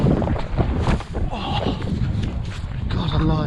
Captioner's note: grunting